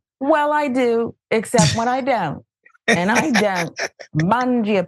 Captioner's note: laugh